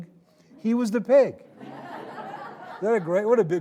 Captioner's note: audience laughing